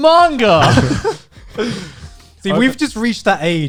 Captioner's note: laughing